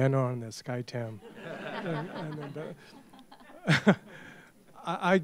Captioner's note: laughter